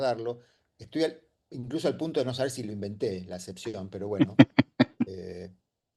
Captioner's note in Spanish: risas